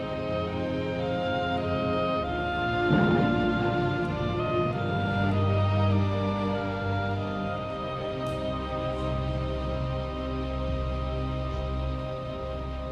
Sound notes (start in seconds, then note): 3.0 cabin crashing; 7.4 sorrowful music dwindles